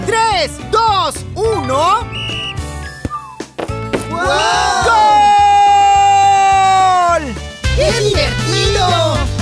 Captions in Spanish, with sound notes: ¡Tres, dos, uno! (Sonido de silbato) ¡Wow! (Grito) ¡Goooool! ¡Que divertido!